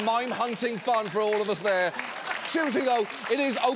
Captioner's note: studio audience applauding